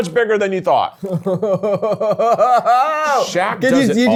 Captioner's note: chuckling